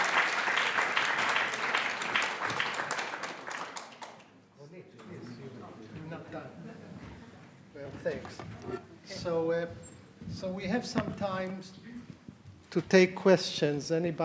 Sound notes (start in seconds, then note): 5.0 people chatter